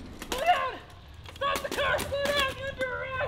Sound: yelling

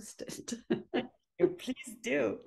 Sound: laughing

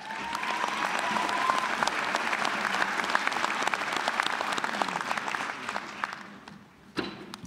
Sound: applause

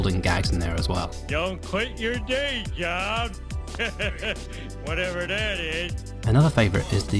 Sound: laughs

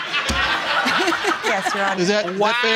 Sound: audience laughing

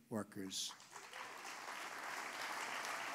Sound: applause

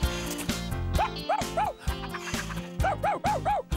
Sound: excited Barking & Panting

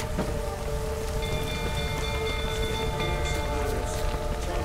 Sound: alarm bell ringing

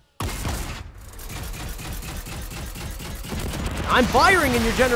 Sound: gun bangs

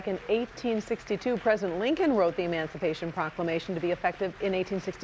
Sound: applause

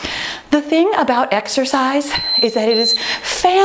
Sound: timer beeping

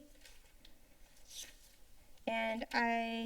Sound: paper rustling sound

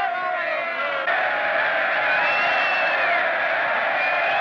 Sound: cheering

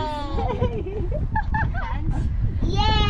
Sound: laughs

